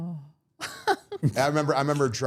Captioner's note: all laughing